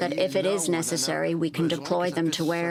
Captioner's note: speaking French